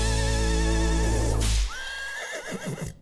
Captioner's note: horse neighs